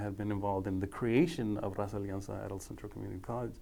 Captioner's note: speaking foreign language